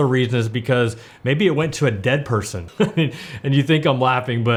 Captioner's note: laughs